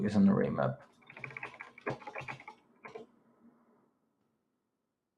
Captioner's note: keyboard clacking